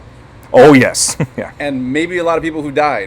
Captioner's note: laughing